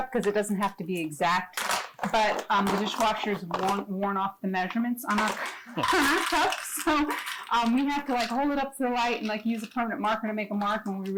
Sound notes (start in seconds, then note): 5.8 cocoa clanging on glass bowl